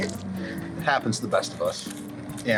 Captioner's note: crunchy popcorn shrimp consumed